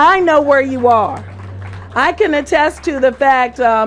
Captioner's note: applause